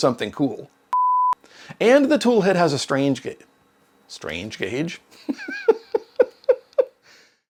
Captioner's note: giggle